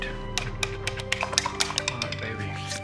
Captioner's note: swirling